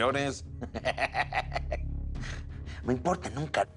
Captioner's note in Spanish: Carcajada